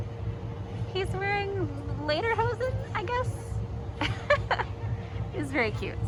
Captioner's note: laughs